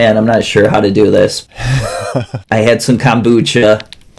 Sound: laughter

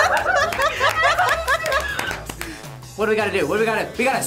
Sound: laughing; laughs; everyone clapping

